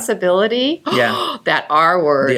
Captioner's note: gasp